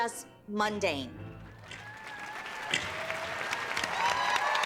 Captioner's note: applause and cheering